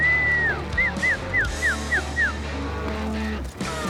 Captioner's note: whistling